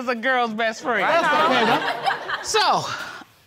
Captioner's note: all laughing